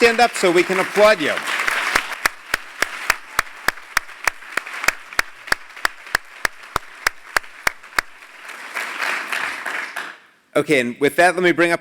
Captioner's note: applause